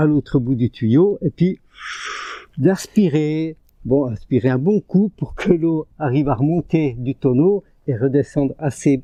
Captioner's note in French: grognement